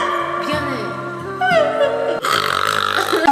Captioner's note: snort and snore